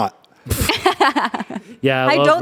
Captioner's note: laughs